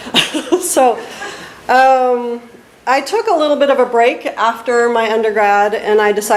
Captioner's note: laughs